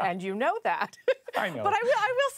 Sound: laughter

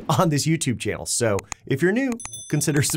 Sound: bell dings

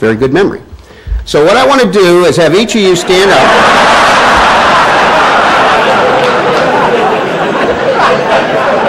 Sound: laughter

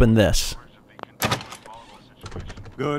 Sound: door opening sound

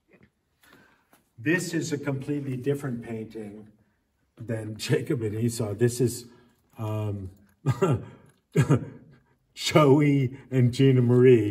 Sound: laughs

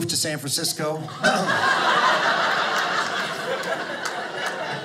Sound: audience laughing

